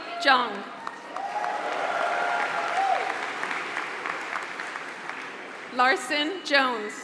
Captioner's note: applause